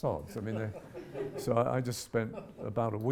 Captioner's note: audience giggles